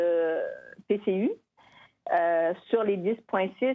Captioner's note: speaking French